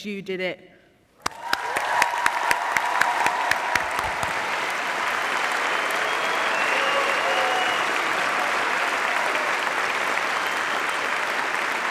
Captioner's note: applause